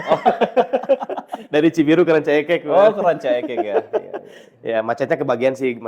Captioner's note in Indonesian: tertawa; tertawa